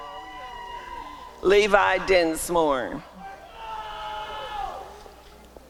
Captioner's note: applause and cheering